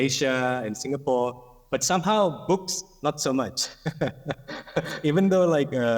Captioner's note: laughs